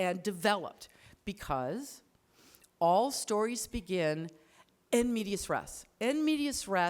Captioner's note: speaks foreign language